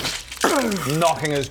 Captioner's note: krrssch; boosh!